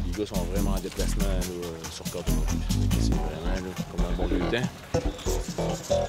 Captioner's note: Slovenian spoken audio